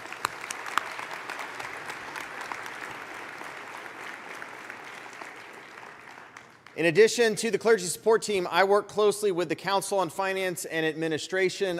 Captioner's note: applause